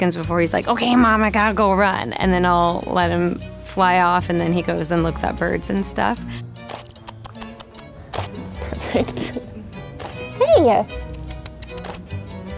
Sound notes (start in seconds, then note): 6.6 kissing teeth